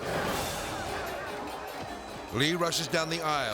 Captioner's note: politicians clamoring